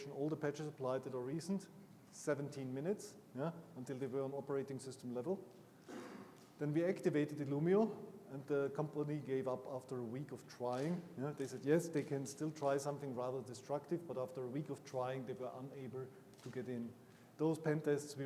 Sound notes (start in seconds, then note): 5.8 attendee coughing